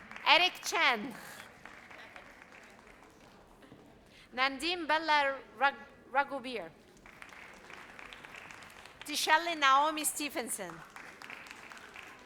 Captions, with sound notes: Eric Chen. Nandin Belaragubir. (audience applauds) Tishali Naomi Stevenson.